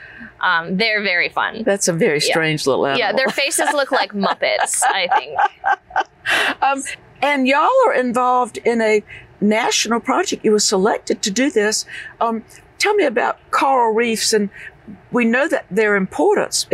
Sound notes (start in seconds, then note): 5.3 laughter